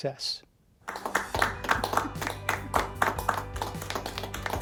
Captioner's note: applauding